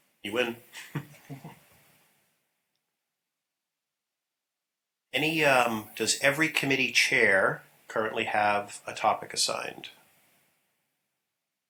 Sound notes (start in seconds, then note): 0.7 laughter